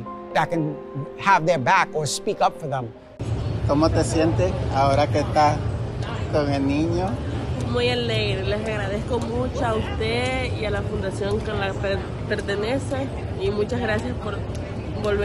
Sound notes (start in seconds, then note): 3.5 speaking Spanish; 7.6 lady speaking Spanish